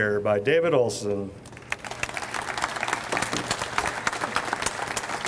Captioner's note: audience applauds